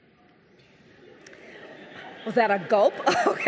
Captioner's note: audience chuckling; laughs